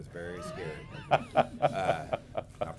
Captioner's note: laughter